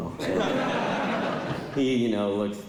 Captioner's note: laughter